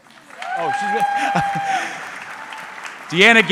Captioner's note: audience clapping